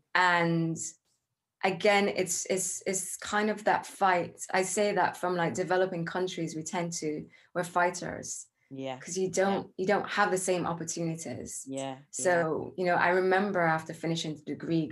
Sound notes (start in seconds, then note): none